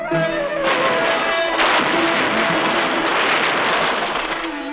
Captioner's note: guns firing